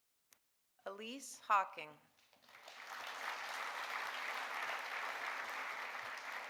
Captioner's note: audience applauding